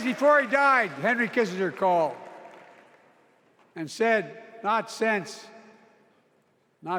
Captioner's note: cheers and applause